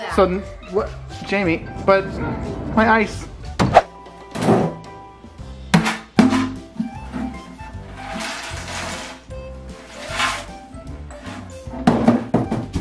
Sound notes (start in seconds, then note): 4.3 door closing; 4.7 soft music; 5.6 banging; 7.3 cereals clacking; 9.3 soft music